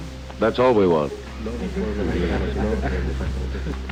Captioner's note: laughter